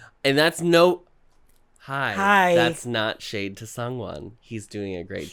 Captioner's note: sarcastically